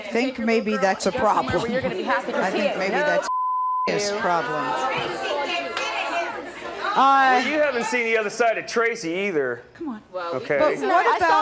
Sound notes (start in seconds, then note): 3.2 beep